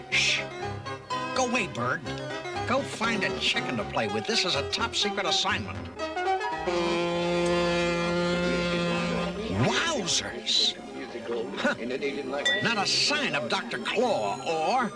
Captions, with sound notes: - QUIET! SHH! GO AWAY, BIRD. GO FIND A CHICKEN TO PLAY WITH. THIS IS A TOP SECRET ASSIGNMENT. [HORN BLOWS] WOWSERS! HUH! NOT A SIGN OF DR. CLAW